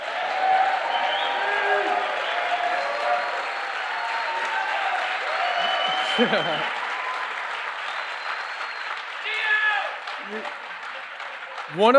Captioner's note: applause